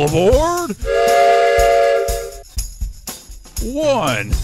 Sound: Number Train Whistles

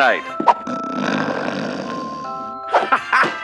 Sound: snores

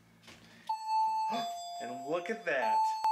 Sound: alarm goes off; alarm continues to go off

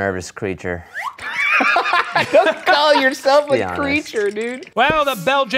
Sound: laughs

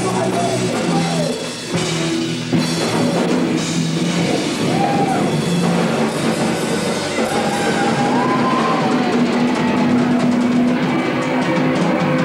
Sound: crowd cheering

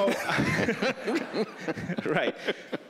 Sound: laughing

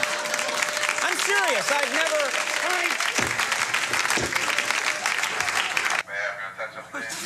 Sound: audience applauds

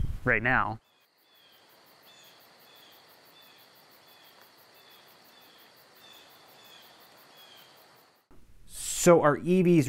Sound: birds cackling

